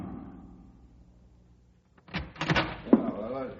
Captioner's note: door opens